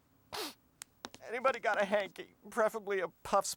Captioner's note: sniffles; sobbing